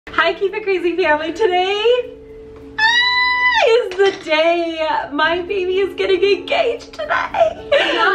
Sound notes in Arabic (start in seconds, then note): 2.8 صرخات